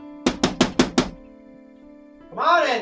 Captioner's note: knocking on door